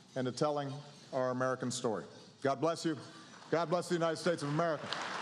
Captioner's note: applause